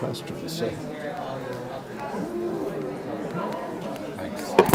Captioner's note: audience chattering